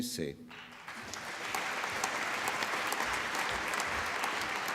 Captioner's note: applause